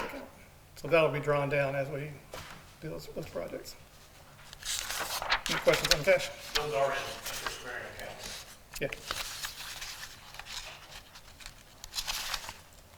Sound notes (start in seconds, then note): 9.2 papers shuffling